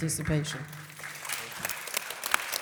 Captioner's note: audience applause